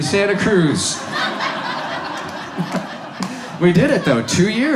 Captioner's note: audience laughs